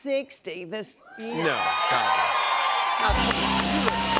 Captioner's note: cheers and applause